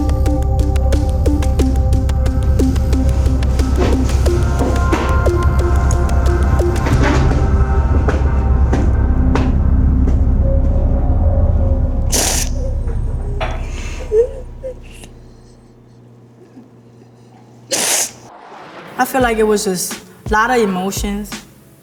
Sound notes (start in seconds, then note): 0.2 intense music; 3.0 chair screeches; 7.1 intense music; 13.6 cries